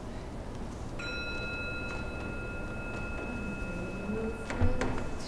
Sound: gong

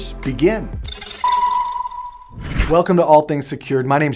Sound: electronic beep

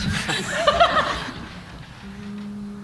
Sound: laughter

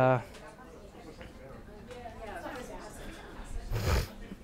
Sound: audience chattering

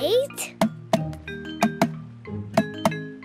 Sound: tapping

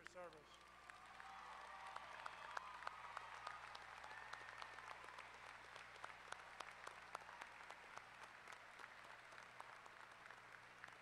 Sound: applause

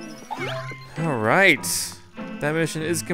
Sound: voiceover

